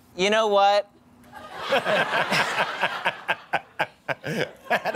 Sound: laughter

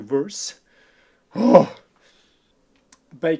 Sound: gasp

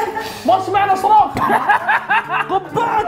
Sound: hysteric laughing

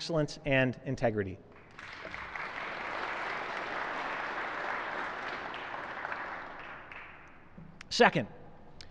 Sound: applause

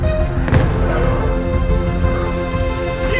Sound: swoosh

